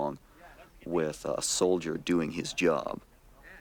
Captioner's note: voiceover